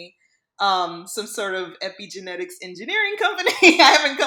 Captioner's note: laughs